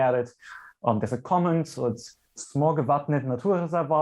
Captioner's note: speaks in foreign language